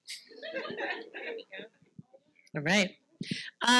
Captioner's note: participants laughing